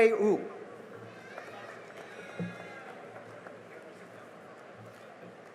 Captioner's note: cheering and applause